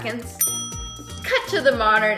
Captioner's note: ding